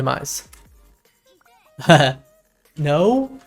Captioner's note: laughs